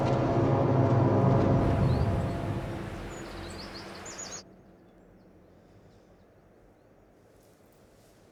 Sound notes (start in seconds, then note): 2.0 birds chirping; 2.0 wind rustling